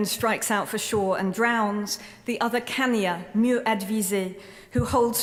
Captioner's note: speaking french